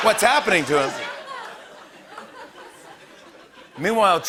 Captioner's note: laughter